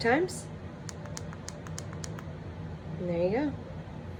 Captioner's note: buttons clicking